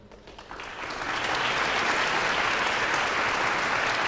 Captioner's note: audience applauds